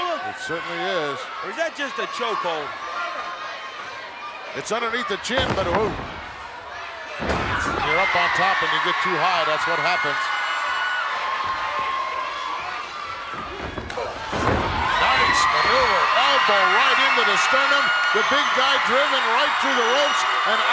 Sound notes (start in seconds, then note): 12.9 body thuds; 14.2 audience cheering